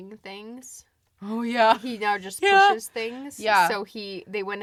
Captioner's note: laughs